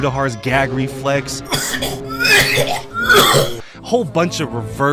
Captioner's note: coughing